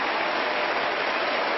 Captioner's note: applause